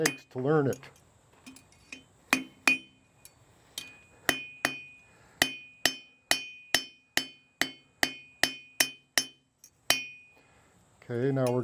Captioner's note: hammering